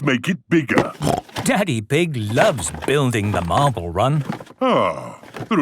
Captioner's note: snorting